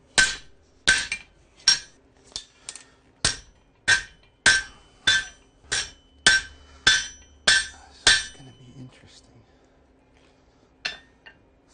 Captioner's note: hammering continues